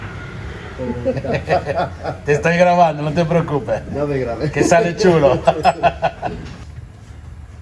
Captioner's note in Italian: risate